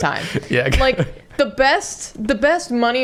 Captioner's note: laughing